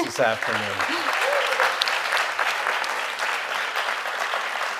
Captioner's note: audience applauding